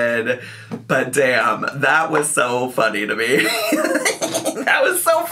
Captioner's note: laughs